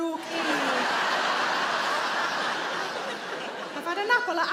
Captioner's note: audience laughs